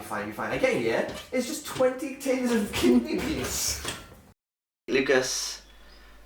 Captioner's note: laughs